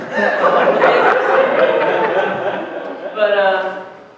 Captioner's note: laughter